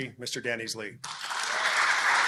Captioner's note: applause